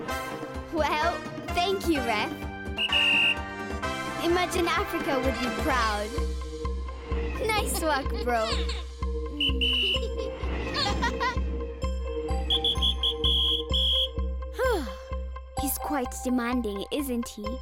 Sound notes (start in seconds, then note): 2.7 whistle blowing; 9.3 whistle blowing; 9.7 laughing; 12.3 whistle blowing; 14.5 sighs